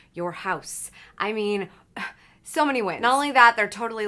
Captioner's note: sighs